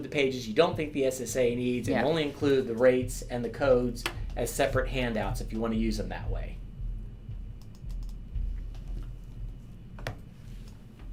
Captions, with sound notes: the pages you don't think the SSA needs, and only include the rates and the codes as separate handouts, if you wanna use them that way. (mouse clicking)